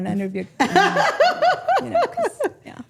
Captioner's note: women laughing